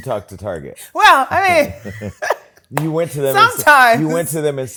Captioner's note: laughs